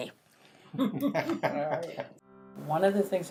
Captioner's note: people laughing